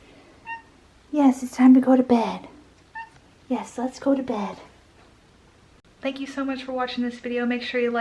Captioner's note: meow